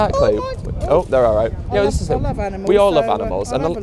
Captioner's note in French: Coup de vent